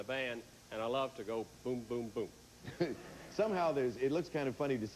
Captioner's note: audience laughing